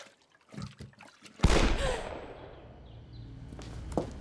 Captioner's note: gunshot; gasps